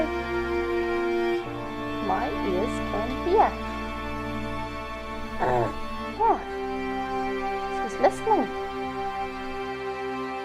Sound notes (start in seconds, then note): 5.4 grunts